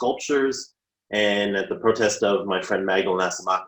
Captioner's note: murmurs